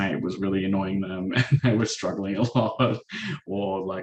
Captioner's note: chuckles